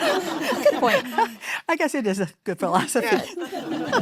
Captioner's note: audience laughing